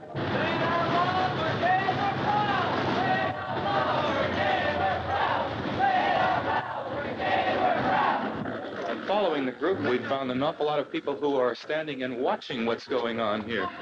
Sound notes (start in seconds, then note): 0.1 street noise and loud protesting; 5.4 protesters chanting